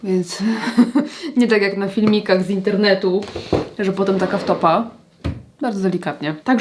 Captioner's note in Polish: śmiech